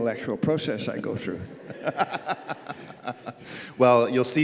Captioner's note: laughs